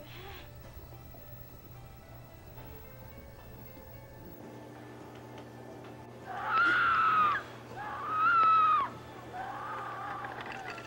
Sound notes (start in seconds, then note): 7.7 screaming from television